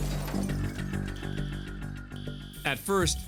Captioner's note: alarm sounding